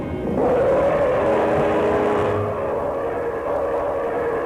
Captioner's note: roaring